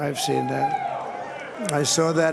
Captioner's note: cheers and applause